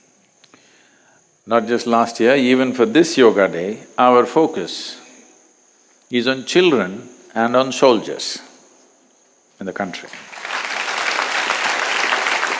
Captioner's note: applause